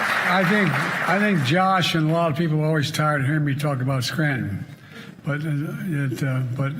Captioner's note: cheers and applause